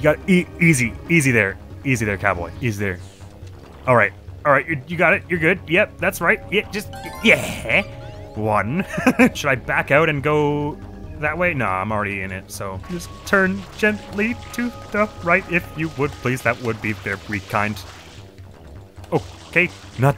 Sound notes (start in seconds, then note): 8.8 laughs